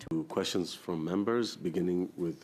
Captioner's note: speaking French